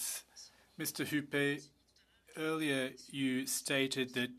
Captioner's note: speaking French